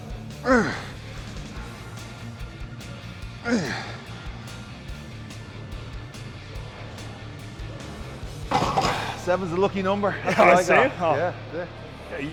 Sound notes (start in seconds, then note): 0.0 Sheamus grunting; 0.0 upbeat rock music continues; 4.3 upbeat rock music continues; 8.5 weights clunking